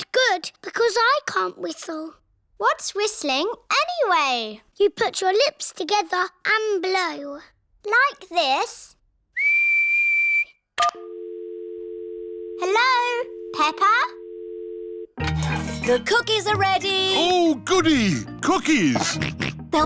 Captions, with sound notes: But good, because I can't whistle. What's whistling anyway? You put your lips together, and blow. Like this? (WHISTLES) (DIAL TONE BEEPING) Hello? Peppa? The cookies are ready! Ooh, goody! Cookies!